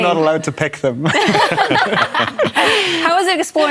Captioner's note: laughter